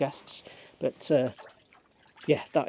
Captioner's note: water splashing